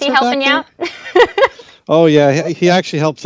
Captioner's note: laughs